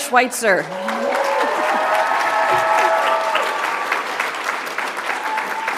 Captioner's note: audience applauds; audience cheers